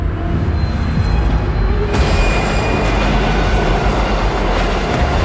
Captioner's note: train creaks and music intensifies